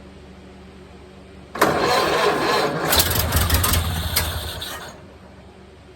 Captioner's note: engine dies; engine cranking; engine sputtering/idling